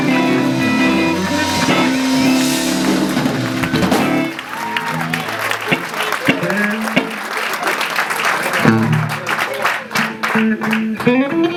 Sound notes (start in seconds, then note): 1.5 audience cheering and applauding